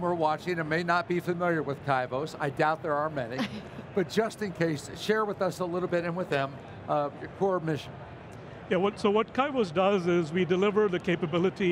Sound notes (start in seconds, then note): 3.4 laughing